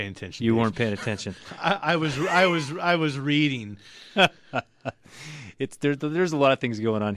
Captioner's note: laughs; laughs